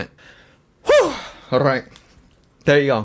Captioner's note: breathes in